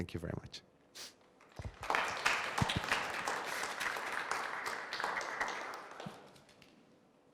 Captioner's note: applause